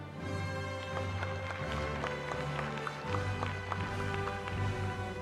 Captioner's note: applause